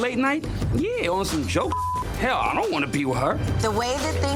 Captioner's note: beep